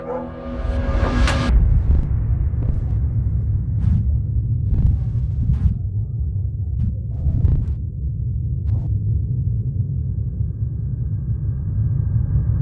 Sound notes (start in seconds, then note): 0.4 distorted crackling; 0.5 door clicking shut